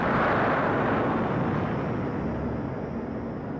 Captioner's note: thunderous roar